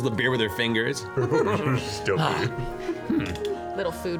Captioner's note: giggles